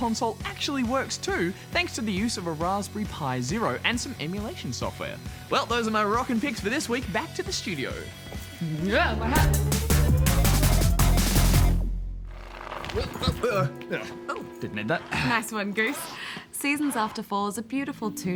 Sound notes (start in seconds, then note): 12.8 grunts